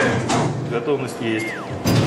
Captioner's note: speaks in Russian